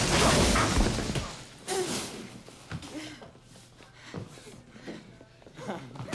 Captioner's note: breathing heavily; laughs